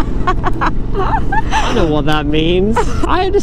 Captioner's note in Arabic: يضحك